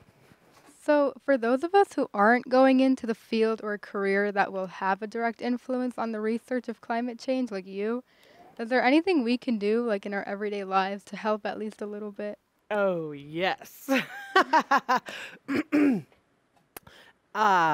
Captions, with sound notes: - So for those of us who aren't going into the field, or a career that will have a direct influence on the research of climate change like you, is there anything we can do, like in our everyday lives, to help at least a little bit? - Oh yes. (laughing)